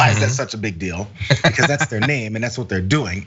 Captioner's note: laugh